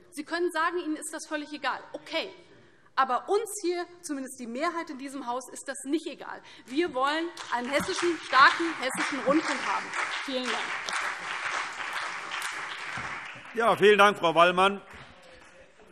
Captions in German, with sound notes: - Sie von der AfD können zwar sagen, dass Ihnen das völlig egal ist, aber uns - zumindest der Mehrheit in diesem Hause - ist das nicht egal. Wir wollen einen starken Hessischen Rundfunk. [Beifall CDU, BÜNDNIS 90/DIE GRÜNEN und vereinzelt SPD] Vielen Dank, Frau Wallmann.